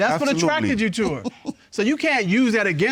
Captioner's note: chuckles